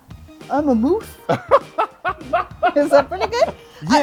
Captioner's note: laughs